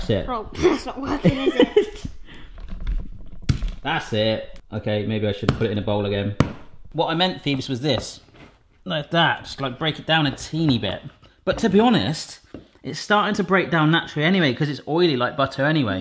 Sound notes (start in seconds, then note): 0.6 laughs; 3.2 rolling pin banging